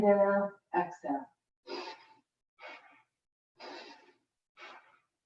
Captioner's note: breathing sharply